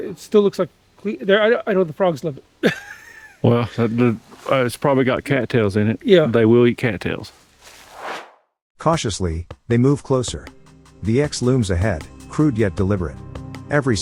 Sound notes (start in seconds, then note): 2.6 chuckles; 7.6 air swooshes